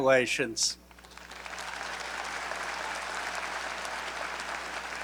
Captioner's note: audience applauding